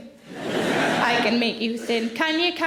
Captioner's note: audience laughing